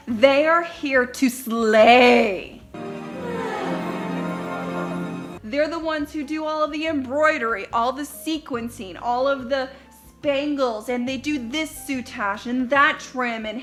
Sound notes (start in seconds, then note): 2.7 bright string music; 2.9 sighing in unison